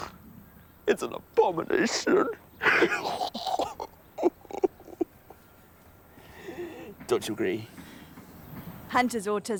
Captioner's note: sobs